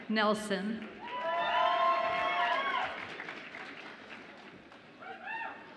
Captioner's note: audience applauds and cheers